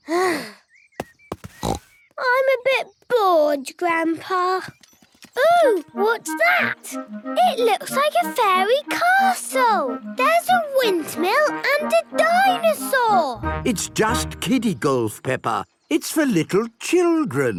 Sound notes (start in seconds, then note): 1.5 snort